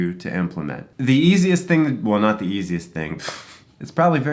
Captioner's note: chuckles